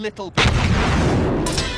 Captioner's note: explosion!